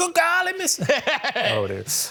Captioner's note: laughing